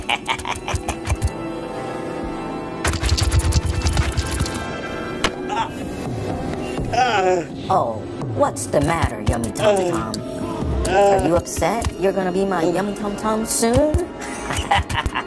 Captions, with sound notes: (scorpions scurry) (Papi grunts) Oh, what's the matter yummy tom-tom? Are you upset you're gonna be my yummy tom-tom soon (laughs)?